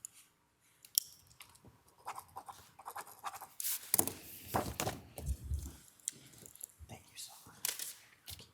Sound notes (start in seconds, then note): 1.9 pen signing